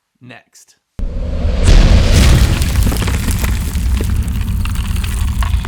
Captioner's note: rocks crumbling